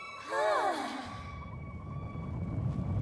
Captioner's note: all sigh; loud rumbling